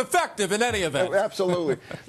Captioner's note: laughter